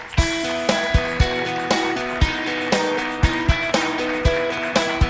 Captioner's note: audience applauds; upbeat music